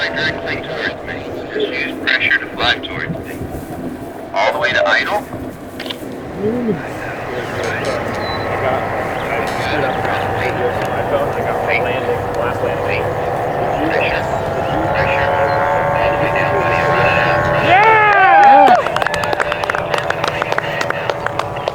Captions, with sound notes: - [Ground Radio] Right tac, lean towards me. Just use pressure, fly towards me. All the way to idle. Okay, pressure. Pressure. All the way down, buddy. (onlookers celebrating) (applauding)